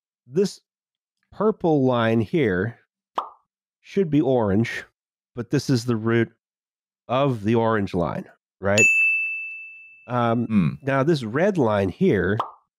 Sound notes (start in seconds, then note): 3.1 pop!; 8.7 ding!; 12.4 pop!